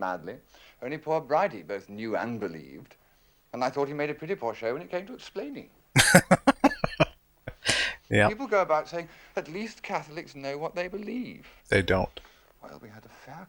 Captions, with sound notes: [Laughing] Yup. They don't.